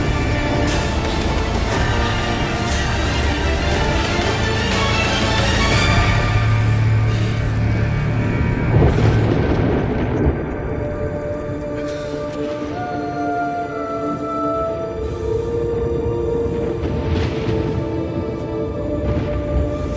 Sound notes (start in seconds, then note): 0.2 dramatic music; 16.7 thunder